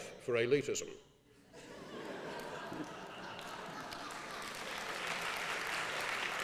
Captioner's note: laughing; applause